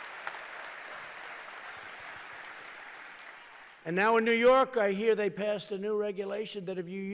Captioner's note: applause